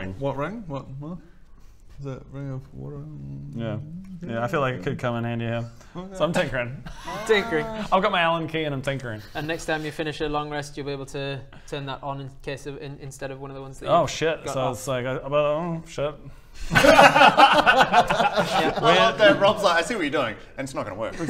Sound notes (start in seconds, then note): 16.7 cruel laughter